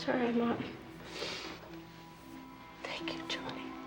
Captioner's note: sniffs